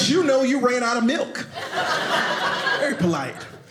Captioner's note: audience laughing